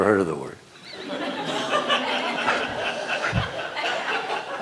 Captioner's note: laughter